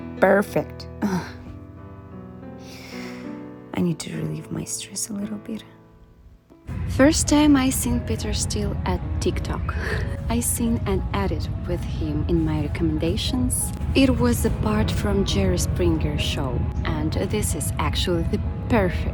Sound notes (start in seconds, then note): 2.6 deep sigh